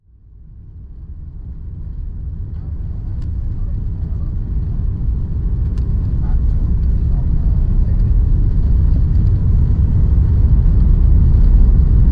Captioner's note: plane Engine Sound Builds